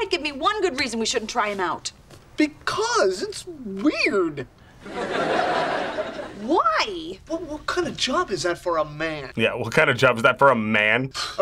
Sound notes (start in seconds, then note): 4.8 audience laughs